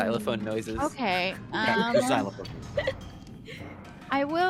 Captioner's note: Calla laughs